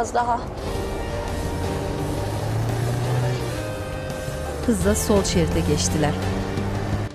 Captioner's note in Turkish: Araba sesi